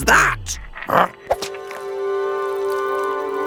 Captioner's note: Big Lizard grunts; slime squelching; whimsical music